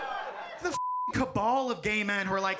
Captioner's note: beep